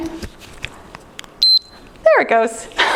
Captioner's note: timer beeps